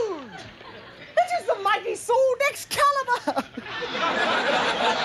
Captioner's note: laughs; audience laughing